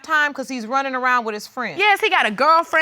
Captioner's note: none